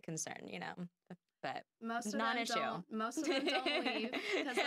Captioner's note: laughing